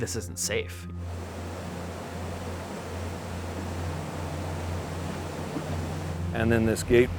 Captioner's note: water rushing